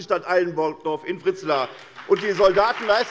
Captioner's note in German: Beifall bei der SPD und der CDU